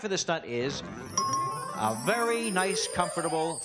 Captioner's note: ringing